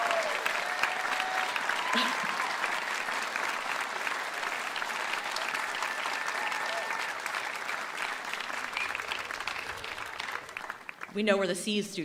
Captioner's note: cheering and applause